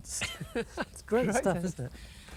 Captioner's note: chuckling